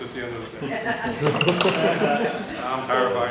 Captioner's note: laughter